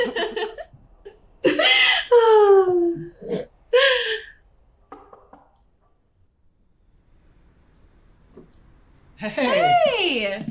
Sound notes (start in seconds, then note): 0.0 both laugh; 5.0 door knocks